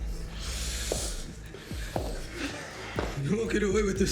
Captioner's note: footsteps tapping